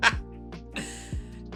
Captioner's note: laughs